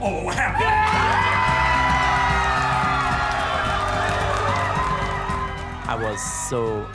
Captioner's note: everyone cheering and applauding